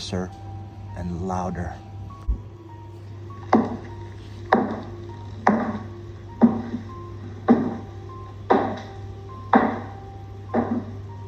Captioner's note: footsteps